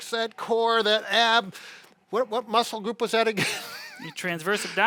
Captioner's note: laughs